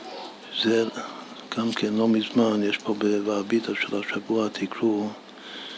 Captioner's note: in Hebrew